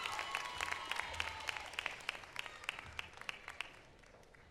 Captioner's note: applause